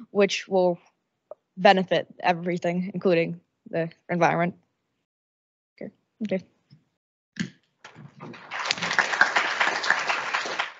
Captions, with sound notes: which will benefit everything including the environment. Okay. (audience applauding)